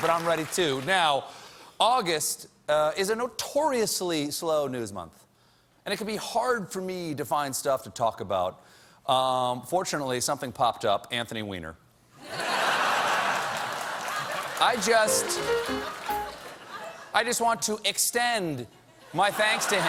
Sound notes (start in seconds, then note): 8.2 laughter